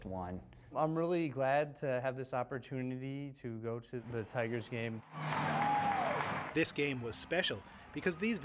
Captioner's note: cheers